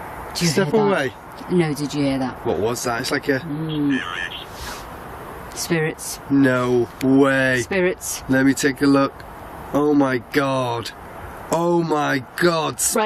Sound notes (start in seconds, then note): 4.0 Ovilus speaking